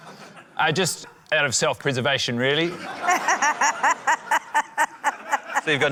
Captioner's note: laughter